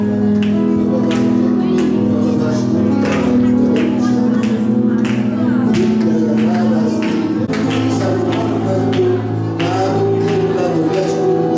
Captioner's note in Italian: Applauso